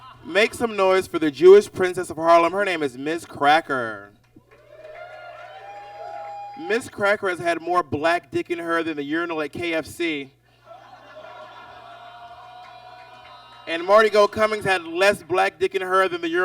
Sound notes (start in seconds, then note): 0.0 audience laughs; 4.4 audience cheers; 10.6 audience laughs